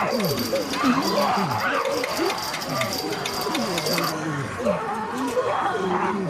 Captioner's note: zombies growling